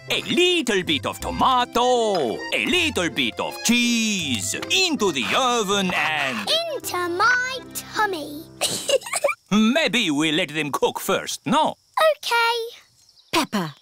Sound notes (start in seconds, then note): 8.9 giggles